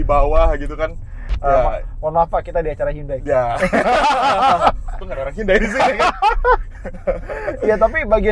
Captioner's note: laughing